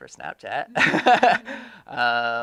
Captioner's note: laughing